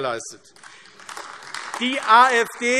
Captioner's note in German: Beifall AfD